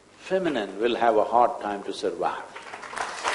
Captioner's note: applause